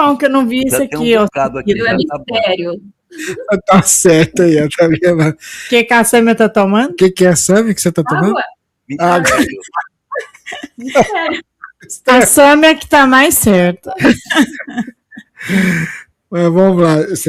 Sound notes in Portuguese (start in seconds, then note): 3.2 risadas; 13.9 risadas; 15.3 suspirando